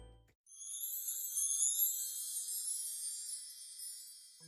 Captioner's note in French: 🎶 Son Féérique 🧚‍♀️🎶